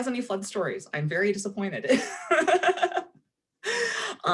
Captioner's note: laughing